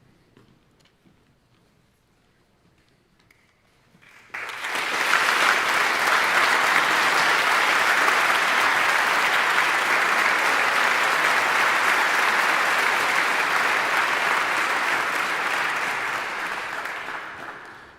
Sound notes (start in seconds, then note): 4.6 audience applauding